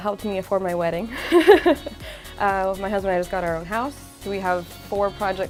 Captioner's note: laughs